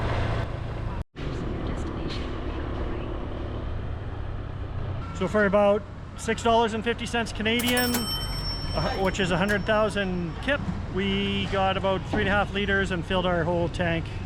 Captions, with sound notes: [engine humming] So for about $6.50 Canadian, [cash register dings] which is 100,000 kip, we got about three and a half liters and filled our whole tank.